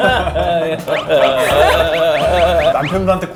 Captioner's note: tehehehehe